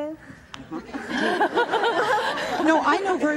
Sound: audience laughs

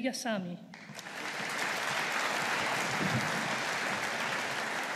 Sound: audience applauding

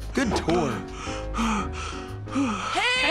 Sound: panting

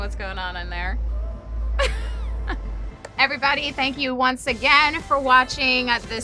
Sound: chuckles

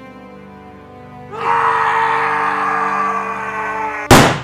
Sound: screams in anger; gun shots

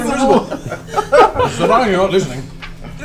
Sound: all laugh

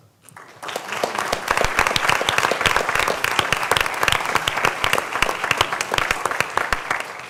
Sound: applause

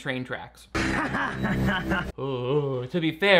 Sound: laughs

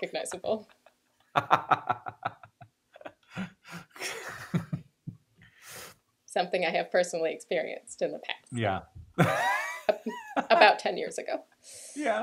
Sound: laughter

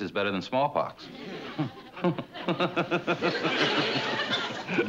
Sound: laughs

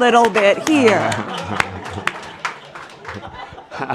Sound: laughter and applause

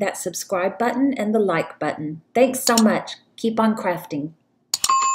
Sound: bell rings for Notifications

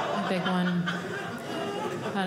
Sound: audience laughing

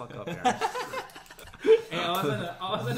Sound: laughs

